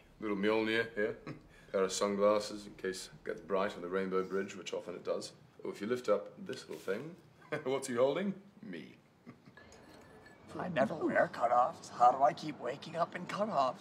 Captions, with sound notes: Little Mjolnir here. (Chuckles) Got his sunglasses in case it gets bright under the rainbow bridge. Which often it does. Oh, if you lift up this little thing. (Chuckles) What's he's holding? Me. (Chuckles) I never wear cut-offs, so how do I keep waking up in cut-offs?